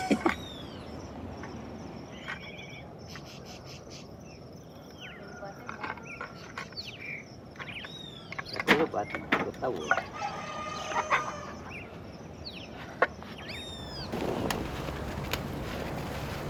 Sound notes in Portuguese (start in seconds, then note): 0.0 Risos; 4.9 Pássaros cantando; 8.6 Pessoas falando